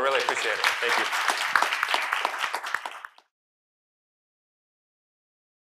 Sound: applause

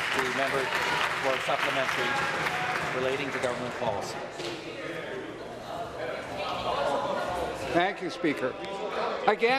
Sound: applause

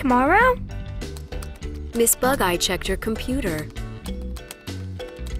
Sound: typing sound

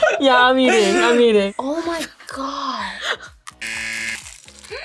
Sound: laughs; buzzer; gasps

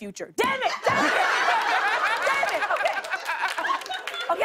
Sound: laughter

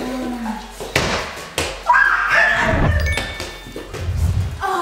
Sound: ball bouncing

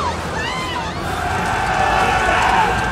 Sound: all shouting; all clamoring

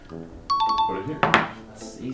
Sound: chimes

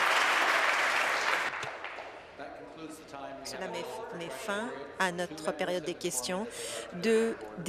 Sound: applause

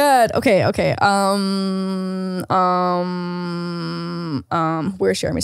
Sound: thoughtful humming

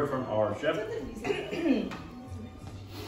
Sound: clears throat

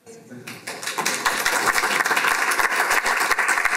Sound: applause

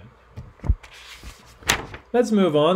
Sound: page rustling

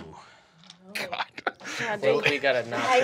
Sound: chuckles

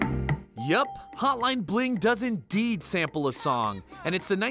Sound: voice-over

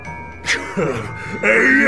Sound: laughs

